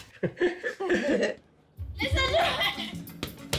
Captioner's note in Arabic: يضحك